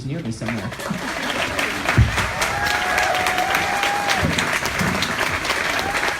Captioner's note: audience applauds and cheers